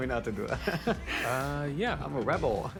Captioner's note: chuckles